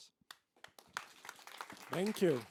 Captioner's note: applause